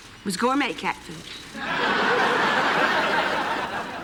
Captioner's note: laughter